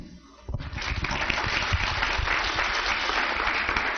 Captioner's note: applause